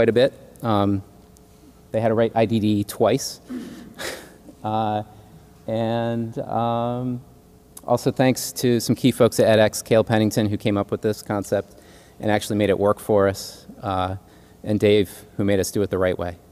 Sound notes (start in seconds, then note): 3.6 laugh